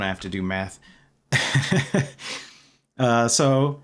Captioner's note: laughter